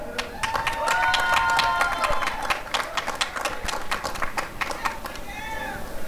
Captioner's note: applause and cheering